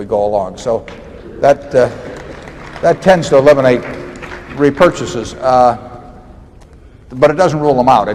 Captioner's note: applause